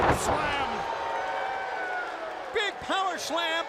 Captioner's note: crowd cheering